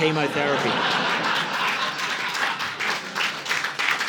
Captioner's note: audience laughing